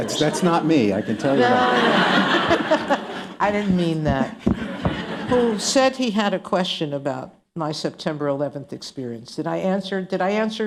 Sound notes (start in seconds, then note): 1.0 laughter; 1.1 laughing